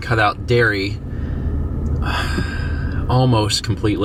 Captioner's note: sighs